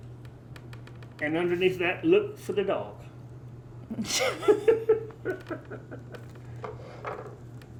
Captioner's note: laugh